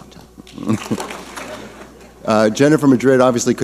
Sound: laughing

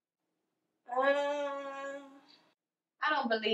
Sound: Lisa moaning

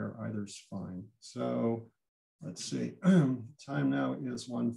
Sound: clears throat

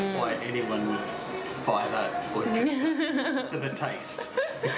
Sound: laughing

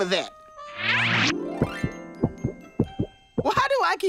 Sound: thumping

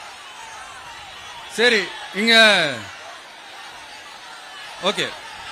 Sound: applause

